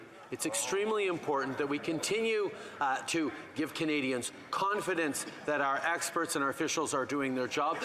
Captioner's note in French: voix de l'interprète